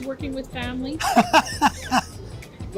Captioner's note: laughs